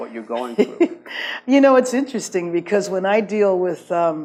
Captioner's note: laughs